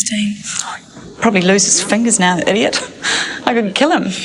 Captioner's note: laughs